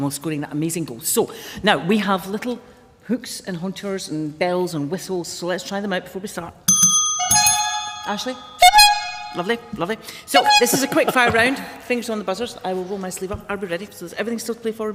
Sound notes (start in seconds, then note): 6.7 bells ring and honkers honk; 8.5 honks